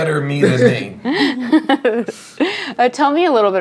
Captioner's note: laughing